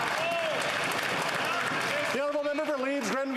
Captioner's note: some Applause